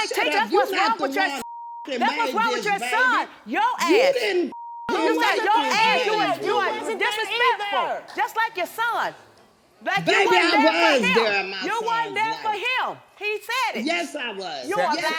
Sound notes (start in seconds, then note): 1.4 beep; 4.5 beep